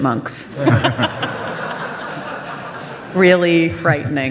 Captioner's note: audience laughs